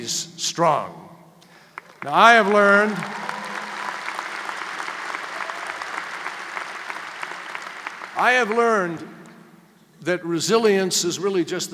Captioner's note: applause